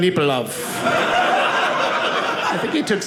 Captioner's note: audience laughing